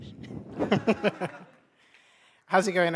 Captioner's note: laughter